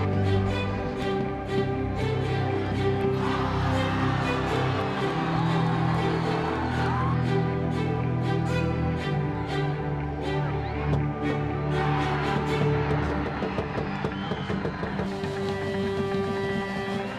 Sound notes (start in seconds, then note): 0.1 upbeat music; 5.0 applause; 5.0 cheering; 7.8 upbeat music; 12.1 cheering; 14.0 upbeat music; 14.8 cheering